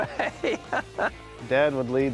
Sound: laughing

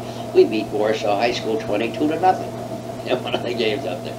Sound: laughs

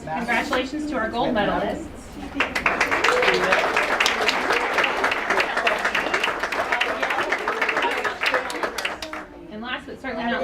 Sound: applause

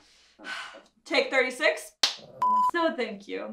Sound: clap

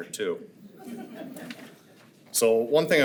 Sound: attendees chuckle

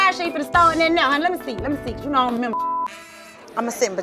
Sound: beep

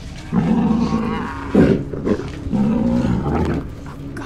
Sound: creature growling

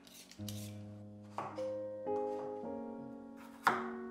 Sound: knife chopping; soft music

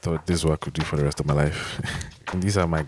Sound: chuckles

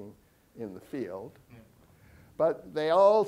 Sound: audience member chuckles

